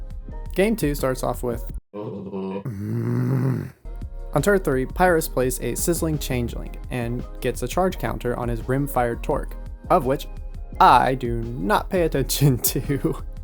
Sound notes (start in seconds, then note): 2.5 angry growling; 12.5 laughs